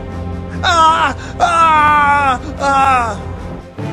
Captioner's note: screaming